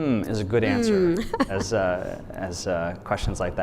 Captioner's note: laughs